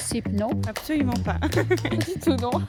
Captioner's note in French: Rire